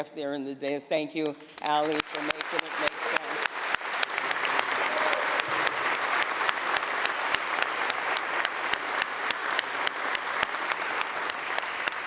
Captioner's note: applause